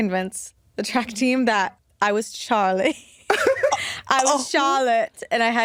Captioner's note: chuckles